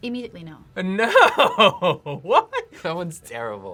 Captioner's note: laughs